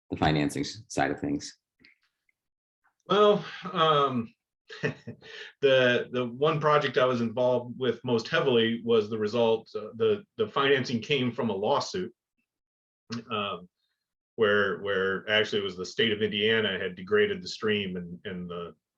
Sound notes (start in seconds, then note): 4.8 laugh